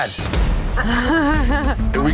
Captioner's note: laughs nervously